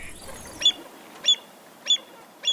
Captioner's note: avocet Call